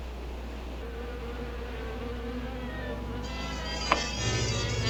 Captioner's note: buzzing; mysterious music